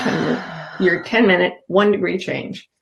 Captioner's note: exhales